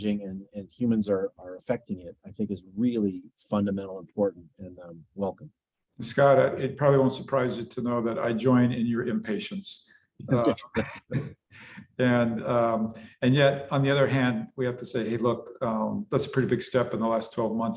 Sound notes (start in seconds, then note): 10.3 laughs